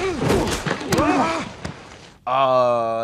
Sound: grunting

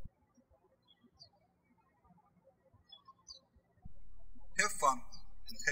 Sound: birds chirping

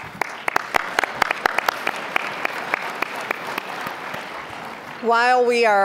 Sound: applause

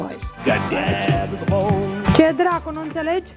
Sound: TV audio; TV static

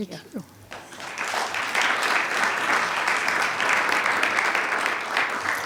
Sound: attendees clapping

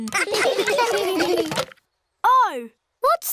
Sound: laughter

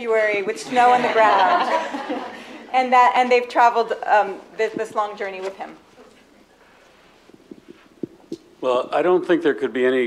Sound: laughter

